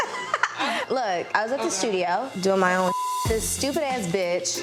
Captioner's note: beep